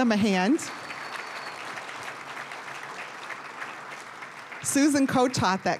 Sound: applause

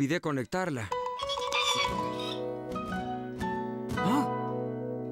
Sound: squeaking

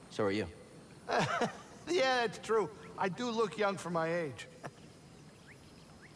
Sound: laughs

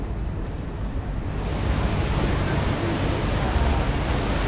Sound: water splashing

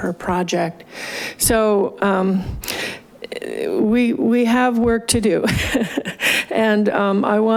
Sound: chuckling

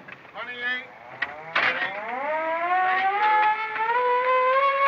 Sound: siren Sounds

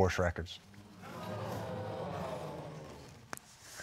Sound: audience gasping

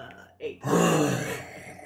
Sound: growls

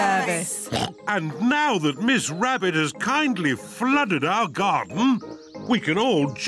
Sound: oinks

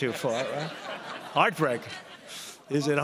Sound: laughter

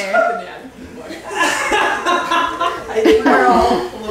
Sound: laughing

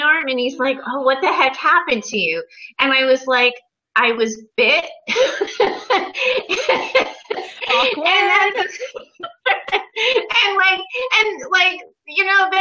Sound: laughing

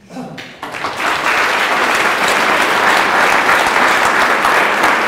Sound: applause

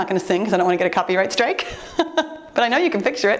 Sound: laughs

